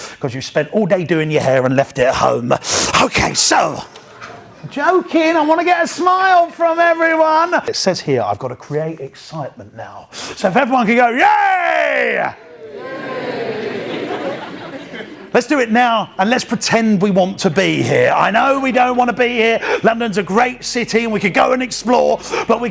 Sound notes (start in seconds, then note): 11.2 crowd; 12.6 laughter